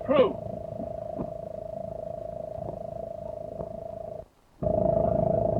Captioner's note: engine chugging